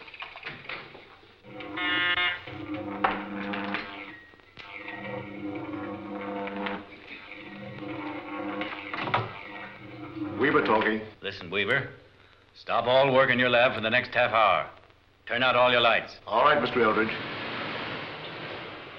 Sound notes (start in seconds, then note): 1.4 telephone ringing